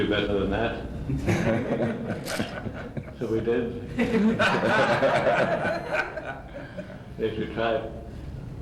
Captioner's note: laughter